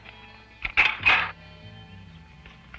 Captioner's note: gun loads